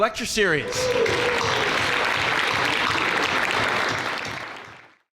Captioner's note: crowd cheering and clapping